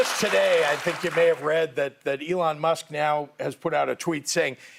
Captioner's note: applause